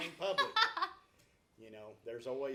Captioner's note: laughs